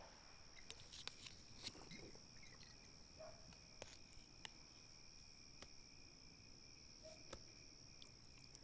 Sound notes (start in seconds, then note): 3.2 distant dog barking